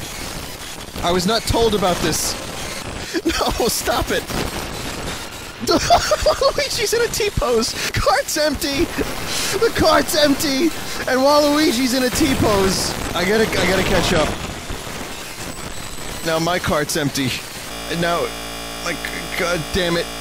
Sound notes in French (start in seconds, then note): 5.6 rire; 17.5 la musique bloque